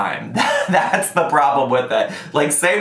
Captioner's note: laughs